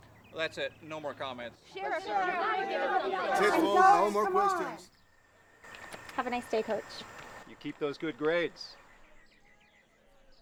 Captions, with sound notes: That's it! No more comments (crowd yelling) Have a nice day, coach - You keep those good grades.